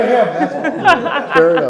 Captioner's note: audience laughing